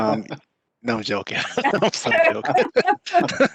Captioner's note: laughs